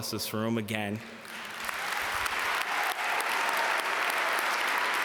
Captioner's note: audience applaud